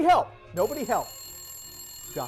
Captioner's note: phone rings